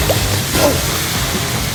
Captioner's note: puddle sound